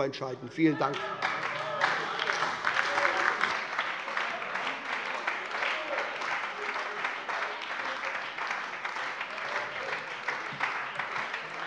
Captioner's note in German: Lebhafter Beifall bei der SPD - Lachen bei Abgeordneten der CDU